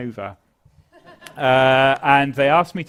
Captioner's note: laugh